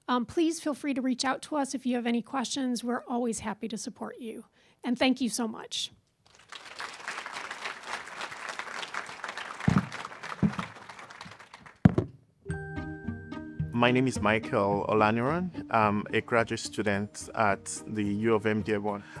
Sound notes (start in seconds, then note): 6.2 applause